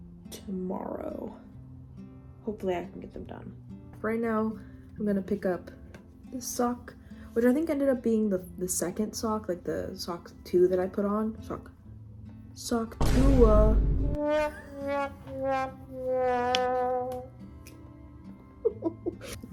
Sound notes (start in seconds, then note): 14.2 womp womp trombone sound effect; 18.6 laughing